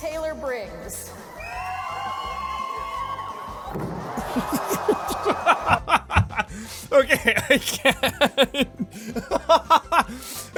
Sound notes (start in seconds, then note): 1.1 crowd cheering; 3.1 crowd OOOOH; 4.2 laughing